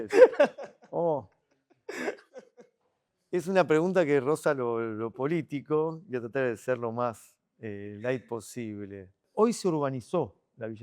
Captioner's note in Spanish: risas